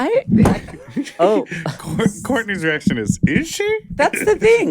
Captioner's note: laughs